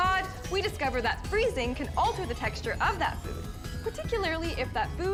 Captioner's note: none